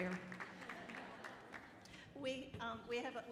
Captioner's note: audience laughing